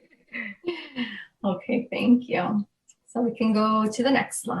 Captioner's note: laughs